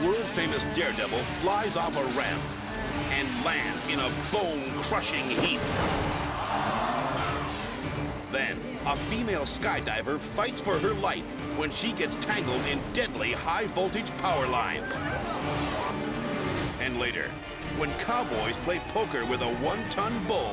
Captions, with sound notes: A world famous daredevil flies off a ramp and lands in a bone crushing heap. (crowd screams) Then a female skydiver fights for her life when she gets tangled in deadly high voltage power lines. And later, when cowboys play poker with a one ton bull,